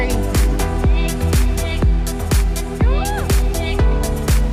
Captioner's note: foreign